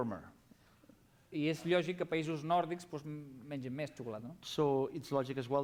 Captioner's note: non-english speech